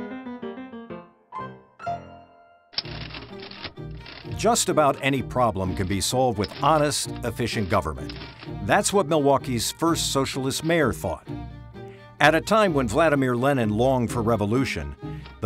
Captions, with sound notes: (bouncy music) (typewriter clacking) Just about any problem can be solved with honest, efficient government. That's what Milwaukee's first socialist mayor thought. At a time when Vladimir Lenin longed for revolution,